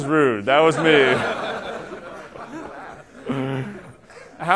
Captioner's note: laughter